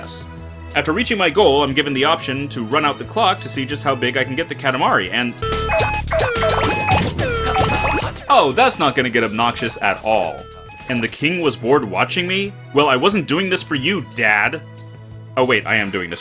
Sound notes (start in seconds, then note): 5.4 very loud alarm